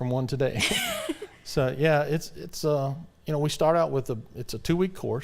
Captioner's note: laughs